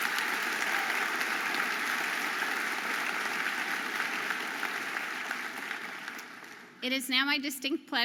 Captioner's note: audience applauding